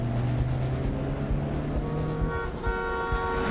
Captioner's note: horn blaring